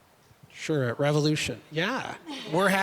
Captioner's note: audience laughing